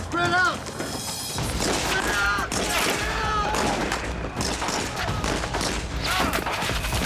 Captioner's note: gunfire and screaming